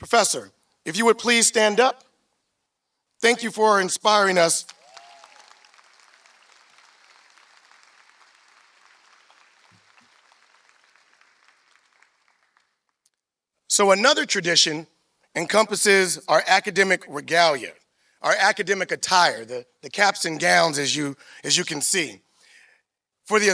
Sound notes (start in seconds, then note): 4.6 applause